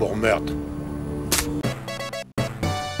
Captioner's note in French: Bruitage de la vie dans Sonic; Crache